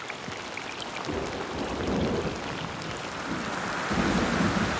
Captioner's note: rain pattering